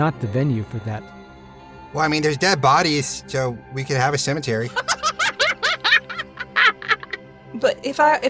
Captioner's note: cackles